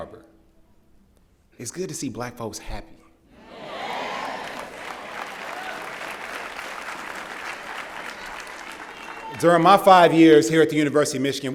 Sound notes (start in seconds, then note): 3.8 applause